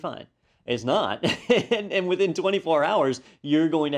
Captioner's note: laugh